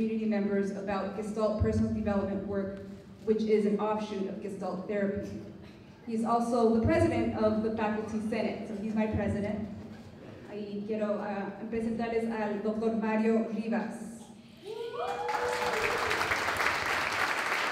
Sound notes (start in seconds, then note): 10.9 non-english speech; 14.9 applause